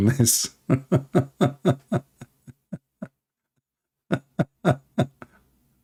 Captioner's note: Ketawa